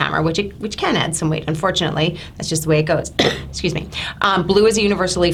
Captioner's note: coughs